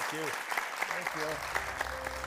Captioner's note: attendees clapping; upbeat music